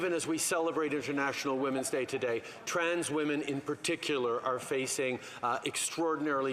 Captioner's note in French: voix de l'interprète